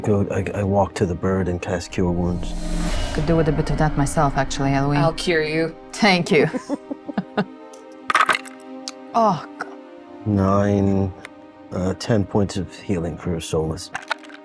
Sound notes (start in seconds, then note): 8.1 dice rolling